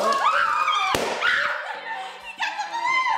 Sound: loud chatter; balloon pops

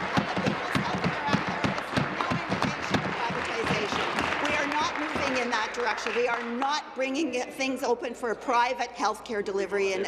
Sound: applause

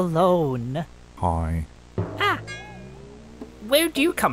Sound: yelps

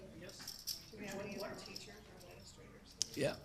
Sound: group chatter

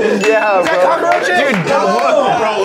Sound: bell dings

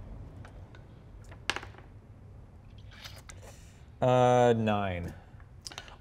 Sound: die taps table

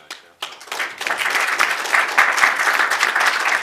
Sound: applause

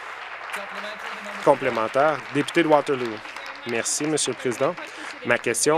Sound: applause

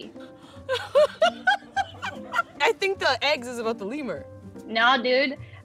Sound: laughs

